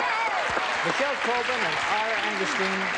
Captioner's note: applause, cheering